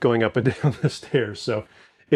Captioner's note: laughs